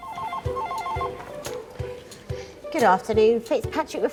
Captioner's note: phone ringing